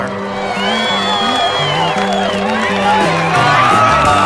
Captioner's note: whistling